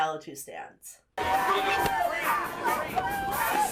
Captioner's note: lively music; residents shouting